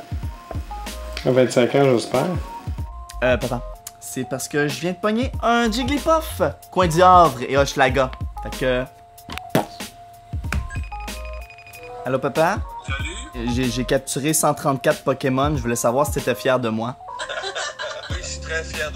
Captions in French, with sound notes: Euh Papa... C'est que je viens d'attraper un Roudoudou, coin du Havre et Hochelaga... Donc... *sonnerie d'appel téléphonique* Allô Papa? J'ai capturé 134 pokémons, j'voulais savoir si t'étais fier de moi. *mes parents s'esclaffent*